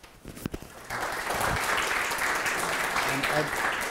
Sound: applause

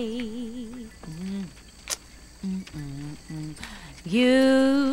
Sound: humming

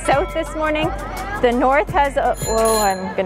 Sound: bike bell

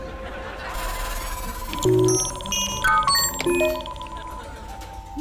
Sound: beeping

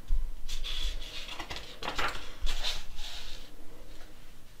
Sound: page flips

